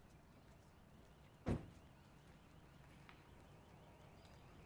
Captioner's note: car door closing